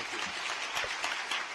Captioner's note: applause